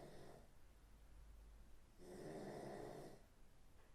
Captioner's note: Phil snoring